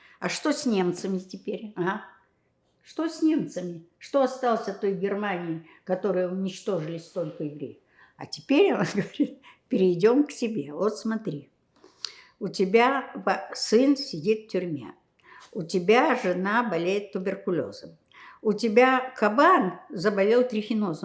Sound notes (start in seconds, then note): 15.2 counting